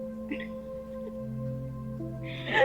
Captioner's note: laughs